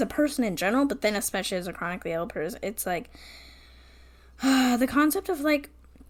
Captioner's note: sighs